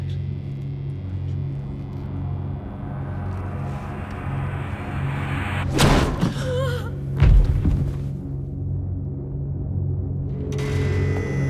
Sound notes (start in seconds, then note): 0.3 dramatic music; 5.7 ax thuds; 6.2 woman gasps; 8.6 dramatic music